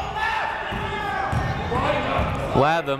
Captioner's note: people shouting in the crowd